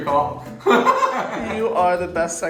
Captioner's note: laughing